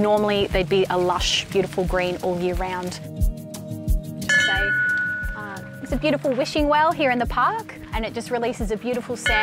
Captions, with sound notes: Normally they'd be a lush, beautiful green all year round. (bright upbeat music) (bell chiming) It's a beautiful wishing well here in the park, And it just releases a beautiful sound